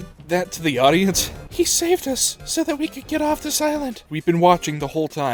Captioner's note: mocking